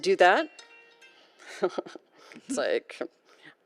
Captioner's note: mobile ringing